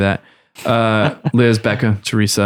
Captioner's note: laughter